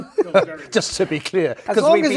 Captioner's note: laugh